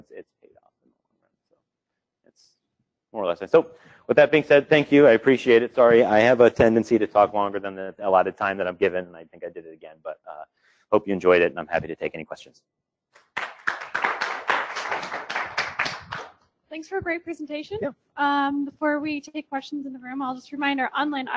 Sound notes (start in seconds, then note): 13.2 applause